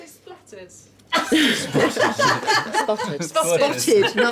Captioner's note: laughing